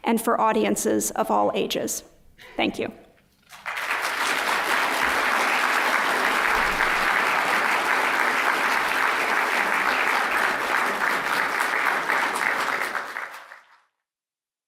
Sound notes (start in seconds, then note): 3.4 applause